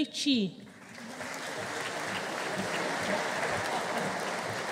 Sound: audience applauding

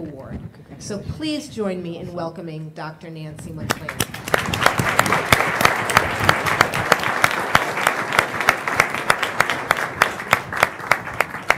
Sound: applause

